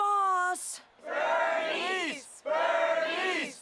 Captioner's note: chanting